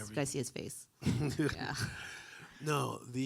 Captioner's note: chuckling